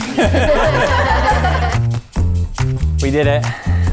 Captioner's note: everyone laughs